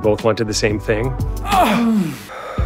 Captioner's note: moaning